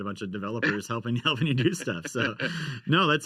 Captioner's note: men laugh